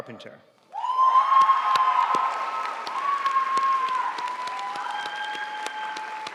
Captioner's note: audience cheering and applauding